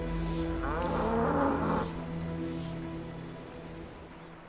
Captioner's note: yak lowing